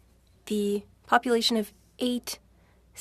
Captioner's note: speaking French